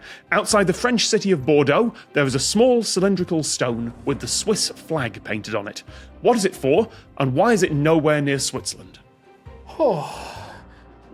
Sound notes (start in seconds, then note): 9.6 sighs